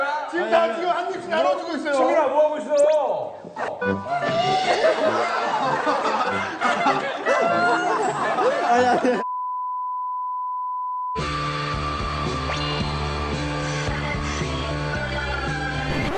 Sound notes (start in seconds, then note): 4.1 makes baby noises; 11.1 dramatic music plays